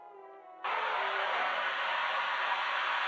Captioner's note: flame hissing